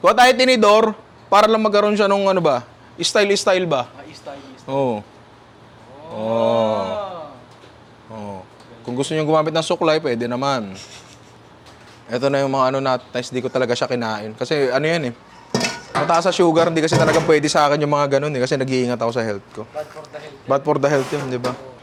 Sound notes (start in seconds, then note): 10.7 chuckles